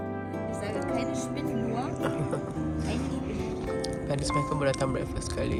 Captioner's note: background music; speaking German; laugh